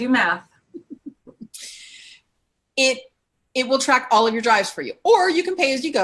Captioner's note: laughs